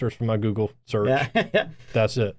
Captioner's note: chuckles